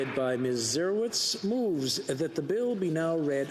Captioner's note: some Applause